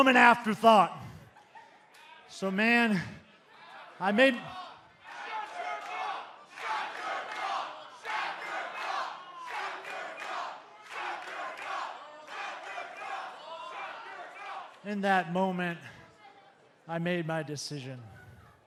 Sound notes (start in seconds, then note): 3.6 fans chanting